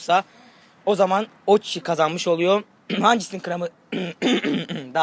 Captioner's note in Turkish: öksürme sesi